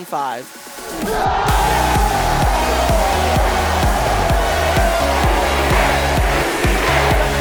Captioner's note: cheering